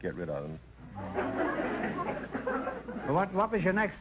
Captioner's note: audience laughter